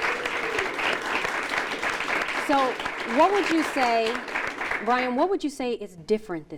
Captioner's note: applause